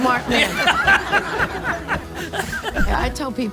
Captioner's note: audience laughing